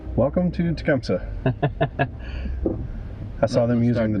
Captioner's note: laughter